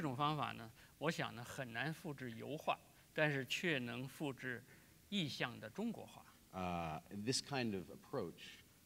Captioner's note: speaking in Chinese